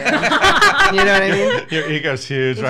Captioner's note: laughs